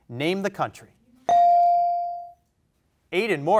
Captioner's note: bell rings